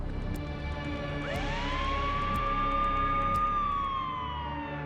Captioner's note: emergency siren